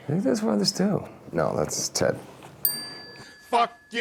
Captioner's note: bell rings